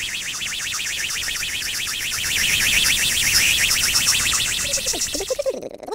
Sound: rocket engine

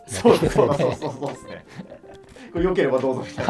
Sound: laughing

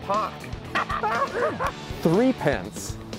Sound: laughter

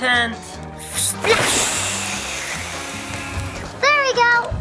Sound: water splashing

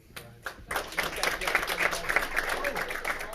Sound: all clapping

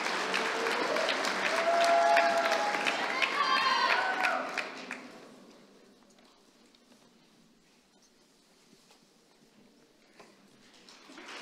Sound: applause

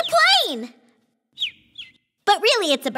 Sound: bird tweets

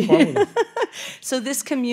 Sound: laughing

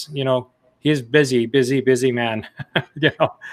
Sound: laughs

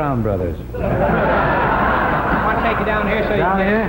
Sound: audience laughs

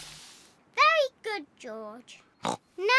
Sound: snorts

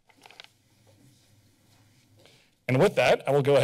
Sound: pause

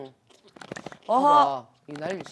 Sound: gnashing

